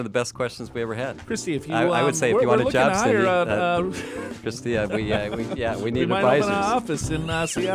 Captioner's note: laughs